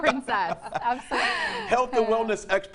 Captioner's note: laughing